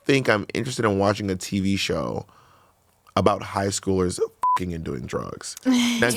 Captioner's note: beep